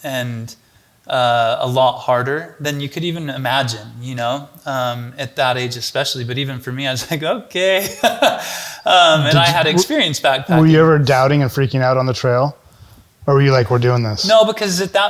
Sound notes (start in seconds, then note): 7.8 chuckles